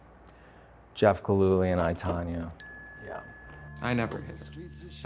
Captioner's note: bell dings